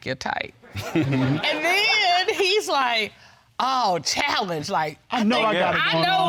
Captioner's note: judge chuckles